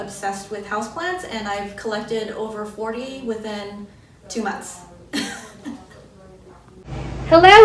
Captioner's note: laughs